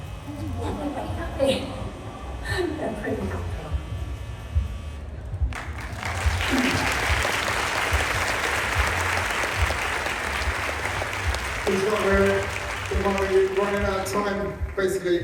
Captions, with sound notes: (LAUGHS) They're pretty comfortable. (APPLAUSE) We've run out of time, basically,